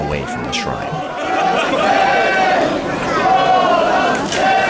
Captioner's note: chanting voices